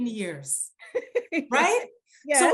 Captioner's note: laughs